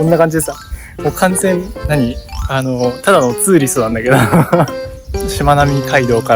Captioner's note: laughs